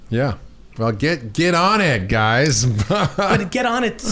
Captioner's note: chuckles